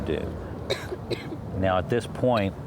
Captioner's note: coughs